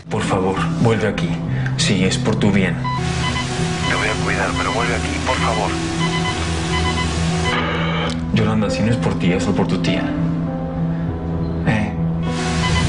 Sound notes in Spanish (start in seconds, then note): 7.6 Pitido; 8.3 Interferencia